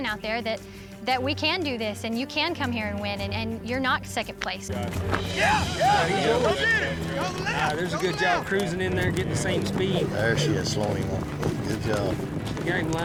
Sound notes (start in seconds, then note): 5.3 all shouting